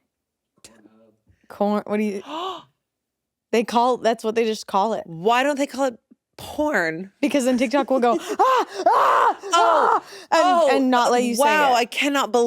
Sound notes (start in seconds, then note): 2.9 gasps